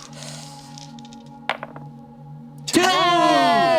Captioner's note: dice clatter